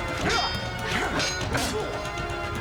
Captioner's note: metal clanging; snick